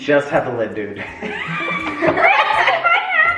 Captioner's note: family laughs